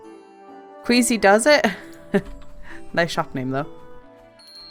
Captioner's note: laugh